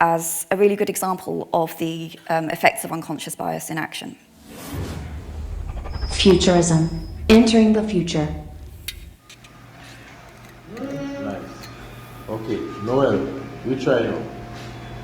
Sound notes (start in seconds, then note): 4.4 text whooshing; 8.9 metal clinking